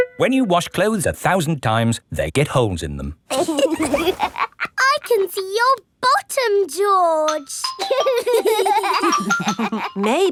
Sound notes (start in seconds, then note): 3.3 laughs; 7.8 giggling